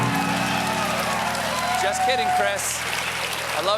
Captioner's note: cheers and applause